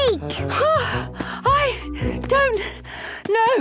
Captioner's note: panting